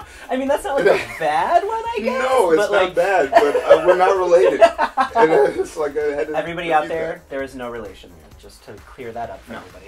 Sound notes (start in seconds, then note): 0.0 laughing; 4.2 laughing